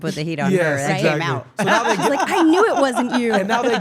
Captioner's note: laugh